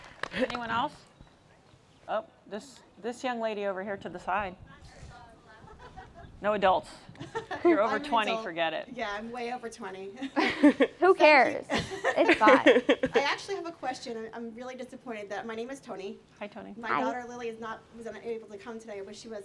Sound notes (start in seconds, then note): 10.1 laughter